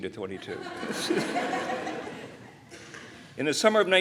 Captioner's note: laughter